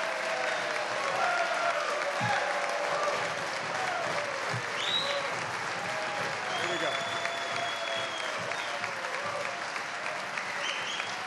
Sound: applause

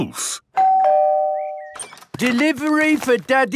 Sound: door bell ringing

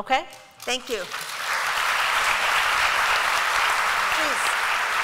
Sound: applause

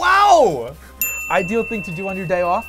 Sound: dinging

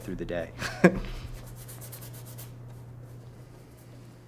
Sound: chuckles

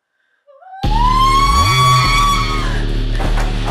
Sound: terrifying scream

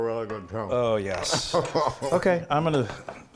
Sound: laugh

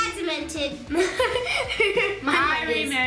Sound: laughing

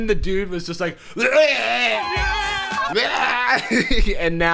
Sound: groaning

